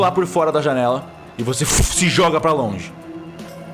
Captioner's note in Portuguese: vush